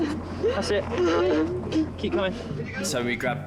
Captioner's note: victim sobbing